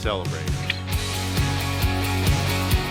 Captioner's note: clicks